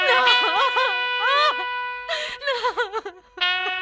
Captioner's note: crying